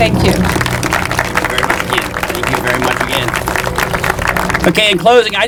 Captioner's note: applause